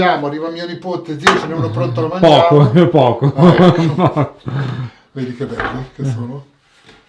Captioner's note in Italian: risate